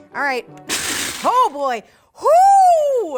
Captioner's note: food processor grinding